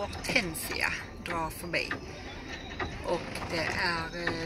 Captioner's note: storm